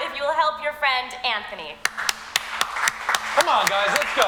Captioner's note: all clapping